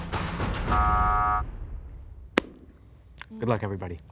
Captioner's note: buzzer